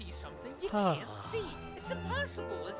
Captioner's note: mr. percival sighs